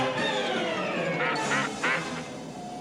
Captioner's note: honking